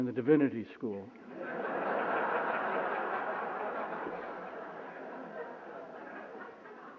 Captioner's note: laughter